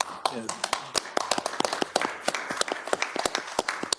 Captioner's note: people applauding